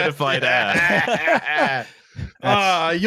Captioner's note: laughter